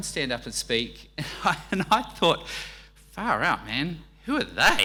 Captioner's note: laughing